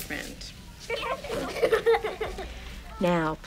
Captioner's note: giggling